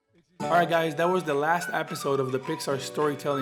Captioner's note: upbeat music; voiceover